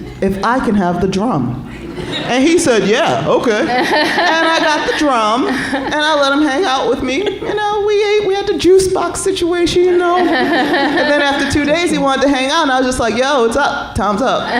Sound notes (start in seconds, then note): 10.1 laughter